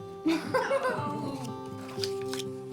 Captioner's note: laughs